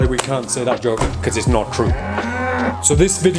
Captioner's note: cow softly moos